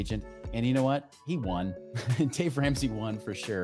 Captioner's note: chuckles